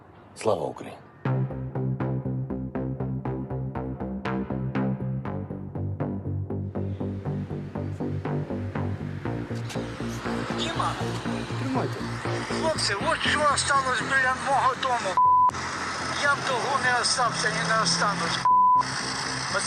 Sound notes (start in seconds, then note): 11.4 phone video playing